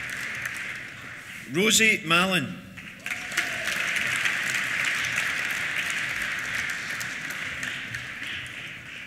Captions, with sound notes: Rosie Malyn. (CHEERS) (APPLAUSE)